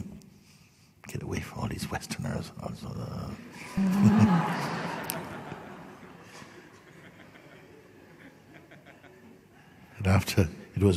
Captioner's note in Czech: smích